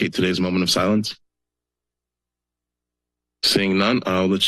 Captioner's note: silence